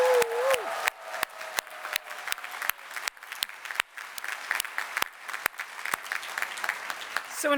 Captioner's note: applause